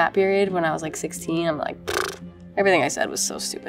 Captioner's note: blows raspberries